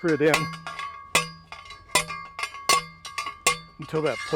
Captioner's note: metal pounding